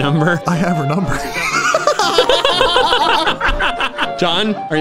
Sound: both laughing

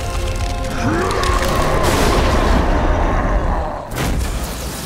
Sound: roaring

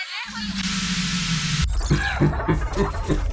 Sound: TV Static; evil laughing

